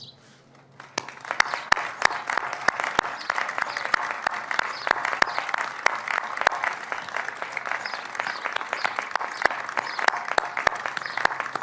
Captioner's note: applause